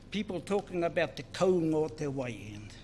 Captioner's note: speaks in foreign language